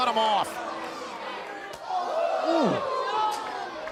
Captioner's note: crowd chatter